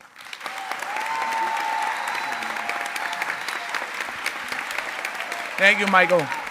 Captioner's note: applause